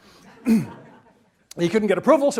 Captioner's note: audience laughs